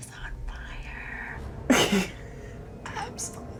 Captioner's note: laughs